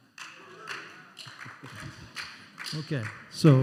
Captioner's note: scattered applause